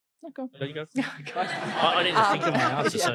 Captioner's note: audience laughing